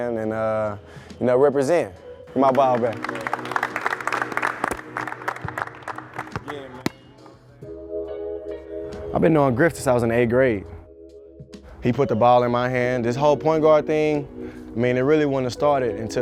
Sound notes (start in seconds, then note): 2.3 group clapping; 5.9 basketball thudding